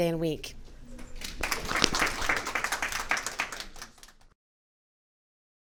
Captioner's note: audience clapping